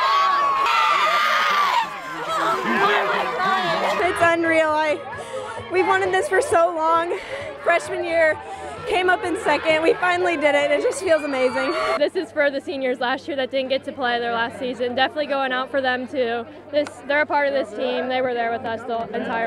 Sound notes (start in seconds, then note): 7.6 shouts and crowd noise